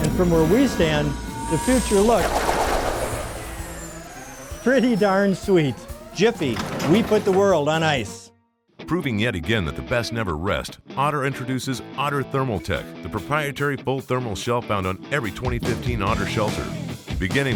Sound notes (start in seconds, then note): 2.6 laser noises; 8.6 voiceover